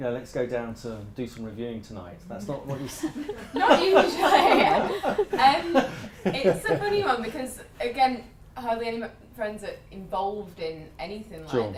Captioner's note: laughter